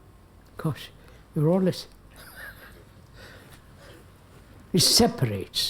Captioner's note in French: rires